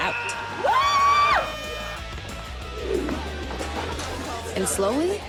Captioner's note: cheering; party horn blares